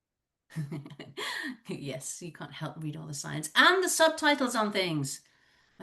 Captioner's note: giggle